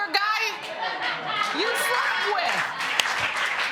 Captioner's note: applause